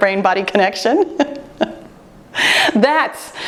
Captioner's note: laughter